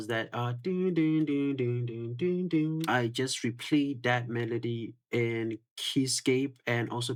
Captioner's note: humming